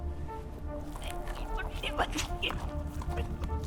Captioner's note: Bertha grunting